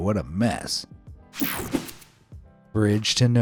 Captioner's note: graphics whooshing